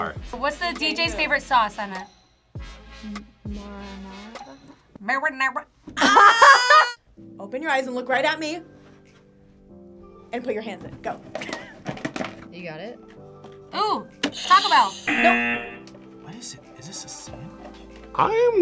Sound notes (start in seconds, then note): 6.0 both laugh; 11.8 laughs; 14.3 buzzer rings; 14.3 buzzer